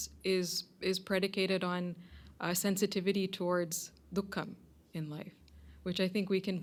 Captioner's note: hindi